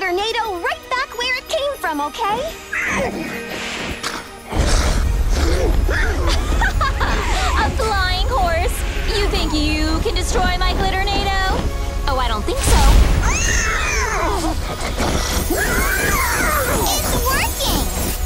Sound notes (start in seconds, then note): 2.7 whinnies; 5.3 laughs; 13.3 whinnying